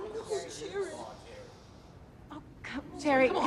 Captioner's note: employees murmuring